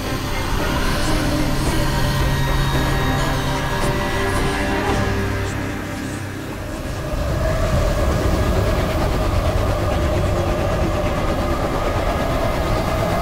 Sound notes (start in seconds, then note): 0.8 wind blowing loudly; 6.4 wind increases